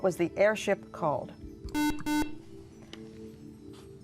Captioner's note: buzzer